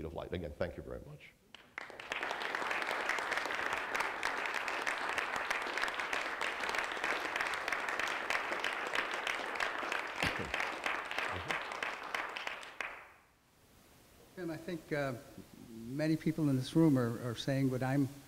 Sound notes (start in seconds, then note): 7.6 clapping